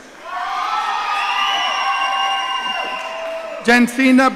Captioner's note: audience cheering